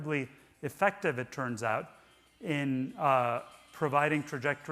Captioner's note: cell phone ring tone chiming